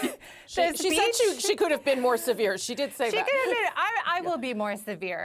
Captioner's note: laughter